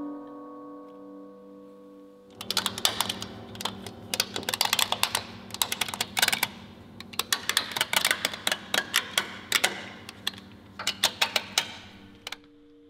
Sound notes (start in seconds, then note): 2.9 plastic clattering